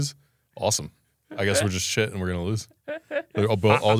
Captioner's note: laughs